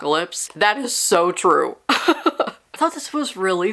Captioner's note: laughs